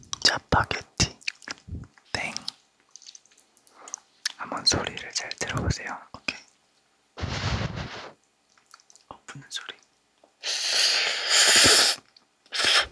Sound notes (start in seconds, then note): 7.2 blowing